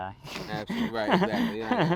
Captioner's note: laughs